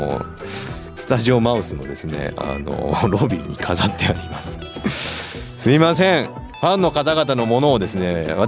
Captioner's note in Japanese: 鼻息